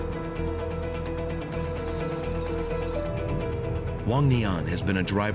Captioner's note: birds chirping